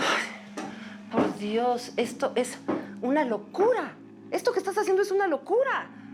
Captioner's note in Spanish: exhala